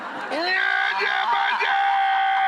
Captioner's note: screaming; audience and Rachael laughing